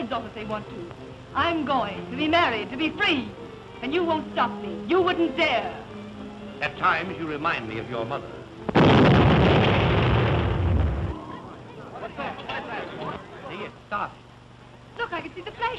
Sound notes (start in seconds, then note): 8.7 blasting